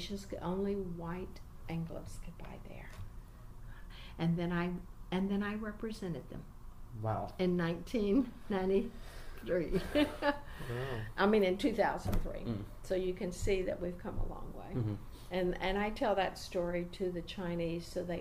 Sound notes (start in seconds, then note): 8.2 gleeful; 9.9 laughs